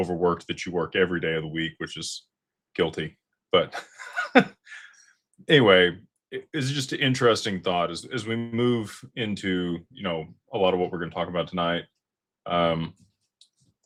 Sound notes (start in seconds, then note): 3.7 laughter